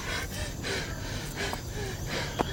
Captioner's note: none